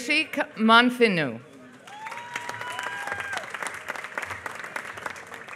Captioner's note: applause